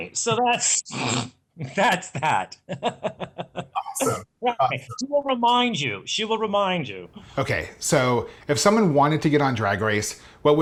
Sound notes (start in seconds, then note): 1.6 laughing; 4.1 distorted computer voice